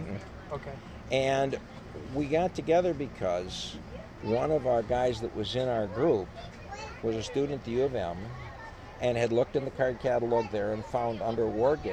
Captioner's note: laughs